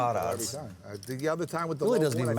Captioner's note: chattering